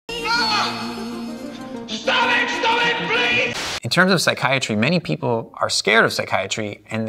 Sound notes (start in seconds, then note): 0.2 Alex yells